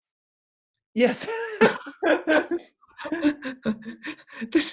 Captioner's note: chuckles